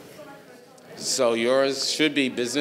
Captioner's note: speaking faintly